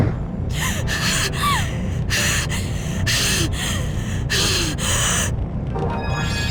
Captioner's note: strained breathing